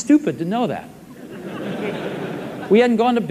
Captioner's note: audience laughs